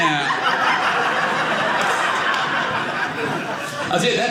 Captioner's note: audience laughing